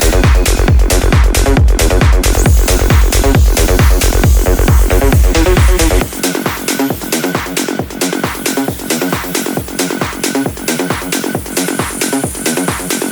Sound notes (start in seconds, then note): 3.8 grinder